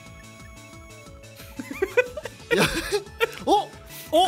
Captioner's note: giggle